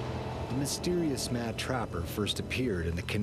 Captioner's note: voiceover